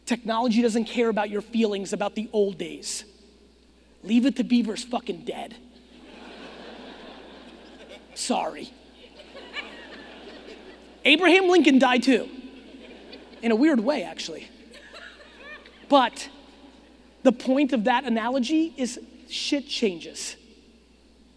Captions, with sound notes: Technology doesn't care about your feelings about the old days. Leave It to Beaver is fucking dead. (audience laughing) Sorry. (audience giggling) Abraham Lincoln died, too. In a weird way, actually. But, the point of that analogy is shit changes.